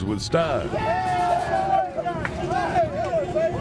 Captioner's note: cheering